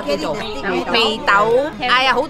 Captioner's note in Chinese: 廣東話